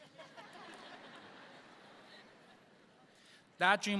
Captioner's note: audience laughs